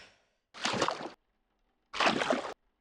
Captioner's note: squelch